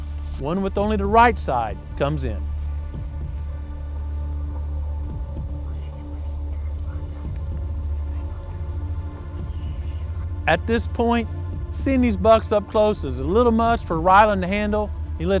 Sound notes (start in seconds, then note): 3.7 whispering